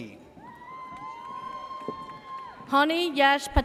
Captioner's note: audience cheers